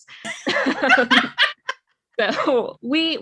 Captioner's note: both laugh